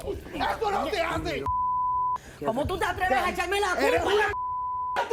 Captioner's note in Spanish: Bip; Bip